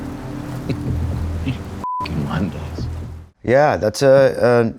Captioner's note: birds cawing; suspenseful music; chuckles